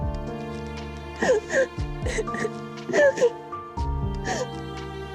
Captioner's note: Biricik cries